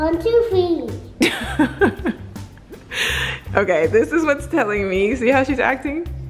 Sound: laughs

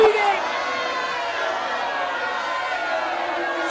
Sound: audience boos

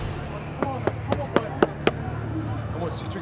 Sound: claps

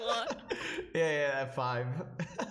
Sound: laughing

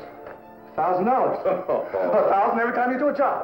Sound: chuckling

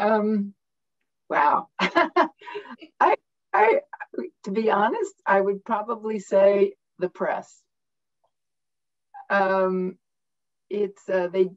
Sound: laughter

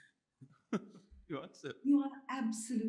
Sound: chuckles

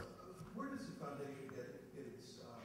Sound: voiceover

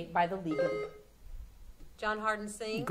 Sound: buzzer sounding

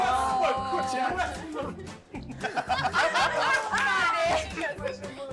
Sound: laughing

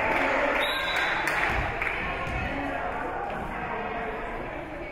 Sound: whistle being blown

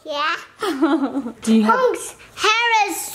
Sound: chuckles

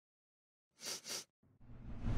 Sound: sniffing

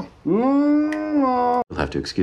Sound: angry muffled noises

